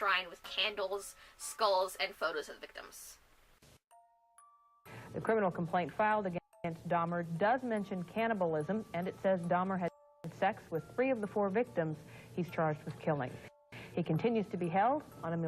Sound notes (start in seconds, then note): 2.7 Static